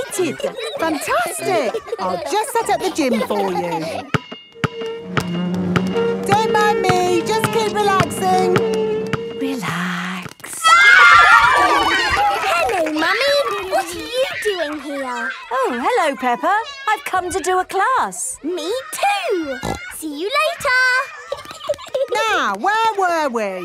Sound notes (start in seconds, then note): 4.7 chair scraping; 10.6 kids screaming; 11.4 laughter; 19.6 snorting; 21.1 giggling